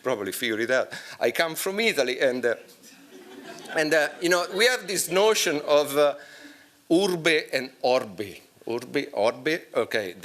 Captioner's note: italian